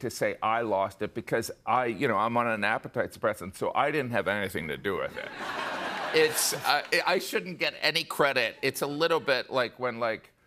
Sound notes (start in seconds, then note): 5.2 laughter